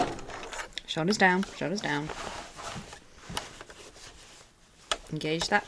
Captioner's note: sewing continues